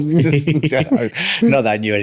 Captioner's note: laughing